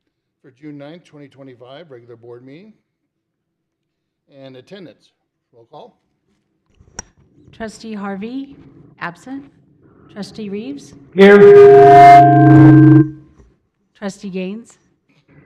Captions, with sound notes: For June 9th, 2025, regular Board meeting. And Attendance, roll call? Trustee Harvey, absent. Trustee Rives? Here. (mic feedback) Trustee Gaines?